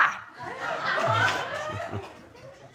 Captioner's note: audience laughing